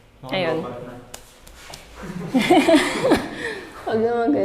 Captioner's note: laughs